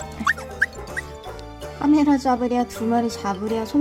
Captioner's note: meow